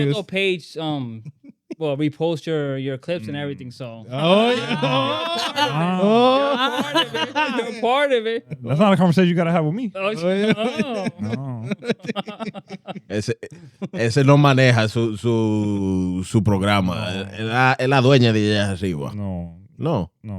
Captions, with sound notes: The Bombato page, well we post your clips and everything so. Oh yeah. (Laughing) You're a part of it, you're a part of it. That's not a conversation you gotta have with me. Oh. (Laughing) (Speaking Foreign Language)